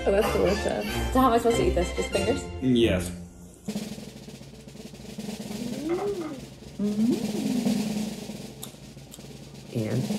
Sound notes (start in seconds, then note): 3.6 drumroll; 6.7 hums